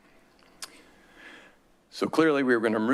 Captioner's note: smacks lips